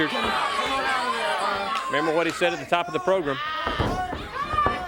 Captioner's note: crowd chatter